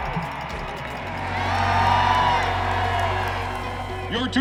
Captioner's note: crowd cheering